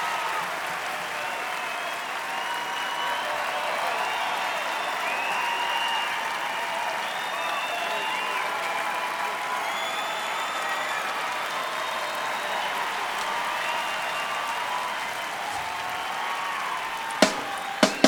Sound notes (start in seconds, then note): 6.9 applause; 8.4 cheering; 11.5 applause; 11.5 cheering; 14.7 applause; 14.7 cheering